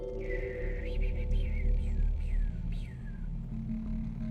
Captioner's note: Patrick whistling